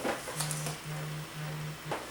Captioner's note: buzz